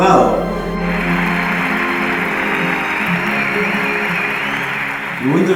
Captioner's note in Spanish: Aplausos